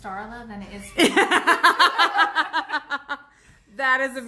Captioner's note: laughs